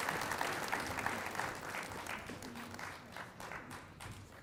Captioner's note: applause